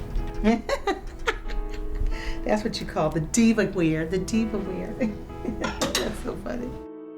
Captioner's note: laughs